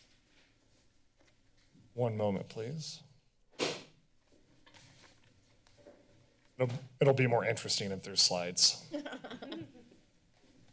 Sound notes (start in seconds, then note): 9.0 laughs